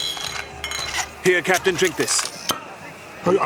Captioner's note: glass clinks; uncorks bottle